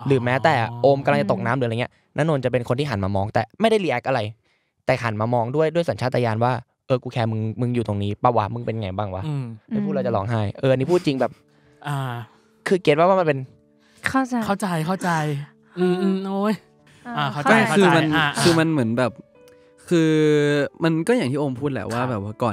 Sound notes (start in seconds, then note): 16.8 cry